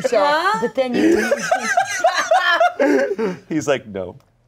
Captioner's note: everyone laughs